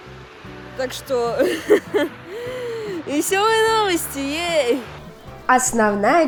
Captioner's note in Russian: нервный смех